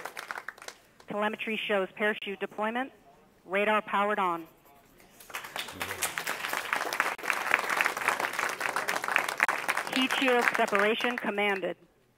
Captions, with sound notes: - [Female Radio Voice] Telemetry shows parachute deployment, radar powered on. [all clapping] Heat shield separation commanded.